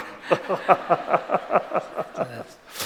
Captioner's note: laughing; non-english speech